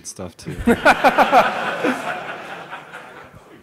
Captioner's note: laughter